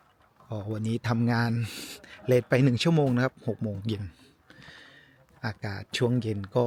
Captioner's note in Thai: เสียงสูดหายใจ